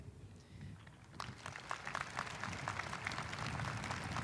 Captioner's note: audience applauding